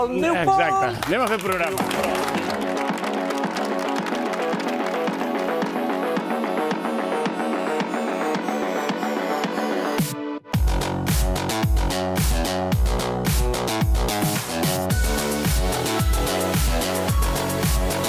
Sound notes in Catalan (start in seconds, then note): 3.3 aplaudiments